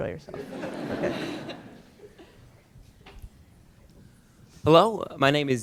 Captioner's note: laughter